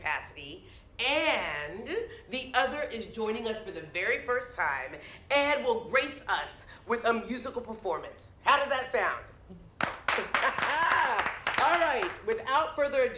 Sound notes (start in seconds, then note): 9.8 crowd clapping; 10.3 Lillian laughs